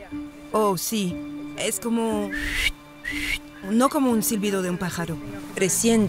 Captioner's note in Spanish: silbar